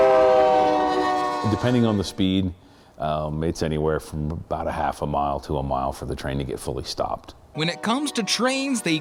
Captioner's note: nat -- train horn